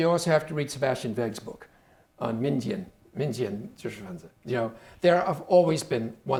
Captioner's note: speaking Chinese